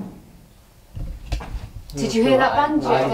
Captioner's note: banging